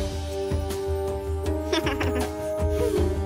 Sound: giggling

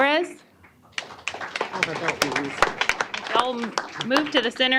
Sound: applause

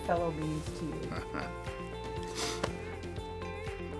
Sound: chuckle and sniff

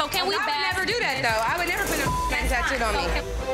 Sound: beep

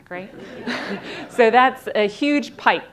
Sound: audience laughing

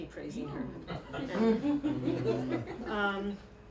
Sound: chuckling

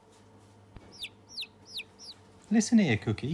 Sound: Gunther chirps

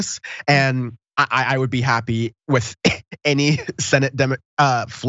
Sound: laugh

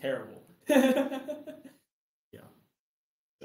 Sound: laughs

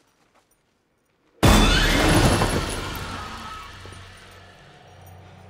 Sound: loud thud

